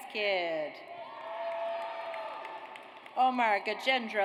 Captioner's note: audience cheers